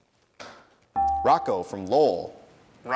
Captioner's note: dinging